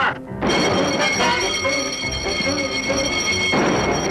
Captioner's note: alarm blaring